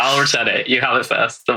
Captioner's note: laughs